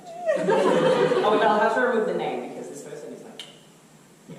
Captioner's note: clicks tongue